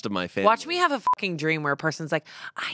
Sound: beep

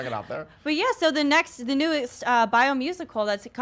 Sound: chuckles

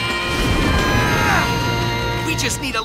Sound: grunting

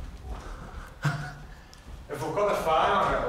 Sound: laughs

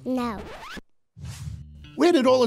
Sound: record scratch

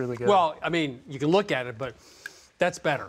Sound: inhales deeply

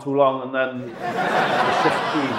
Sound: audience laughs

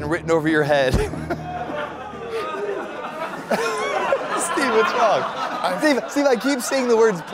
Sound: groans / Laughter

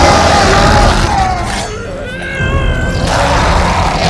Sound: yells

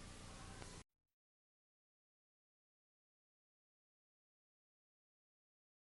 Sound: silence

